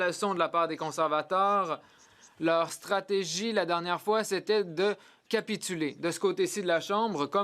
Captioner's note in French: voix de l'interprète